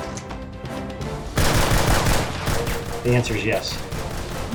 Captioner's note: machine gun firing